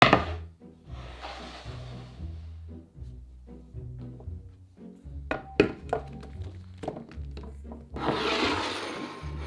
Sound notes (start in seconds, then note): 0.8 board sliding; 5.2 brussels sprouts dropping; 7.9 bowl sliding